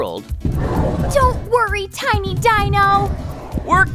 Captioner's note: knocking and roaring from the egg